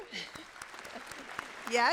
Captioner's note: applause